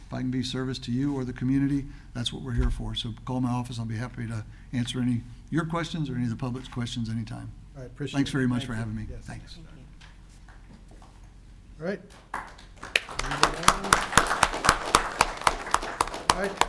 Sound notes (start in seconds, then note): 12.1 audience claps